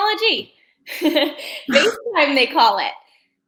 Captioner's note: chuckling